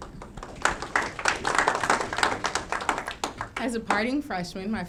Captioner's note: audience clapping